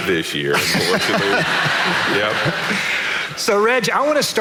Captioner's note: audience laughing